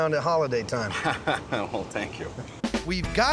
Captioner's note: laughing